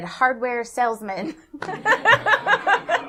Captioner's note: laughter